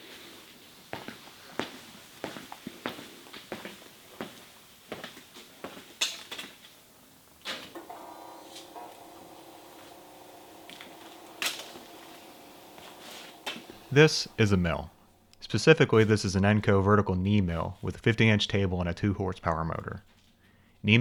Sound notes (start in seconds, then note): 2.2 footsteps approaching; 7.5 light switch clicking